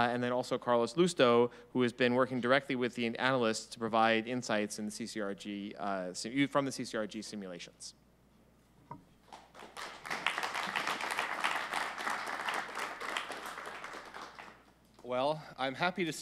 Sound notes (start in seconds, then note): 9.2 applause